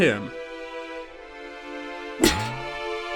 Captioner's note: boing